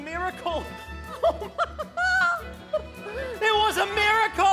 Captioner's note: laughs